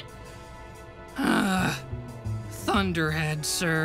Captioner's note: in a high pitched voice; groan